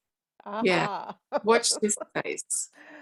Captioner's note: both laugh